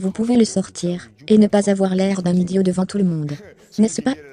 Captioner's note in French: rires